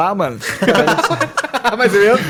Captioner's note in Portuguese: risada